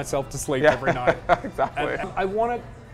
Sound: laughs

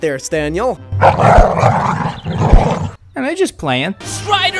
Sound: dogs growling

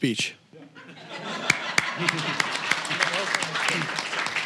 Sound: audience laughing; applause

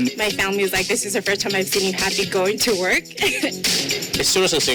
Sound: laughs

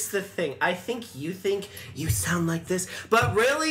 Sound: whispers

